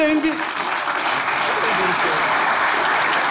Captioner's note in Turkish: Alkış sesleri